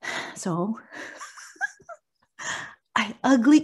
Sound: laughs

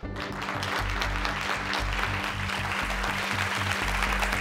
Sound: audience claps

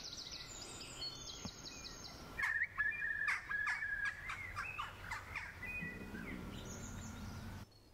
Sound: birdsong

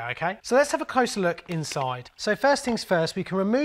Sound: clicks

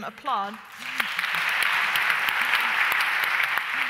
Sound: audience applause

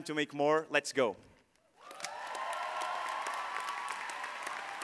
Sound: all applauding

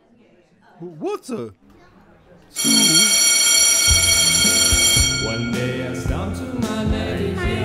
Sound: bell rings

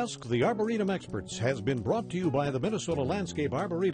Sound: voiceover

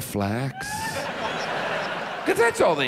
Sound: audience laughs

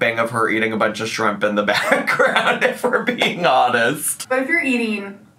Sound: laughing

